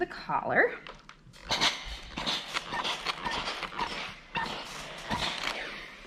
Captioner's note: steam spray squeaking